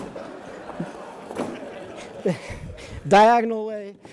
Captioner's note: audience laughing